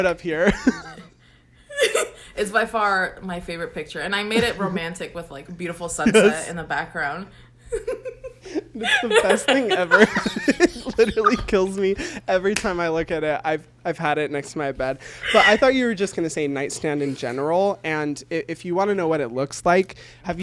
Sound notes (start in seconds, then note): 7.6 both laugh; 7.7 laughs